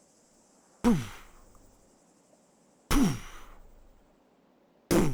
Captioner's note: beatboxing